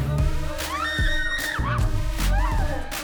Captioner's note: upbeat music; all screaming; upbeat music